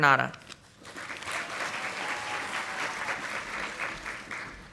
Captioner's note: audience applauding